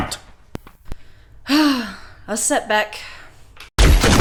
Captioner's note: sigh